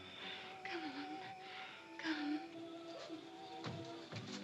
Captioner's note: speaking softly; soft sentimental music